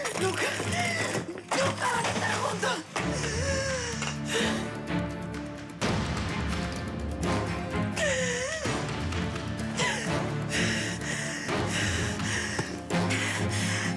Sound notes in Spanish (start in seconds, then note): 3.4 Sollozos; 9.7 Sollozos